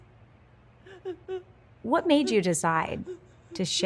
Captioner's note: Paulina sobbing